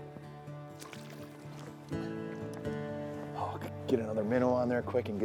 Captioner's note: bright acoustic music; water splashing